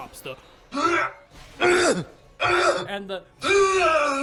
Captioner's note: exertions; screaming